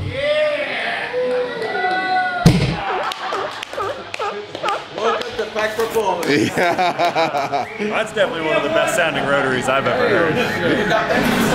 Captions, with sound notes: - Yeah (everyone cheers) (seal squealing) - That's definitely one of the best sounding rotaries I've ever heard.